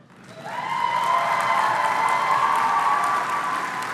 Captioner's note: applause